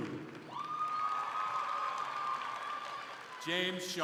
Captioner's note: crowd cheering